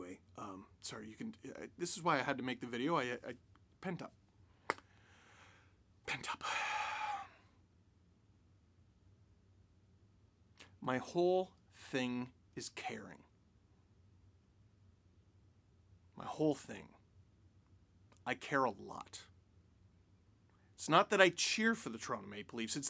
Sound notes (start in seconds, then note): 6.6 deep sigh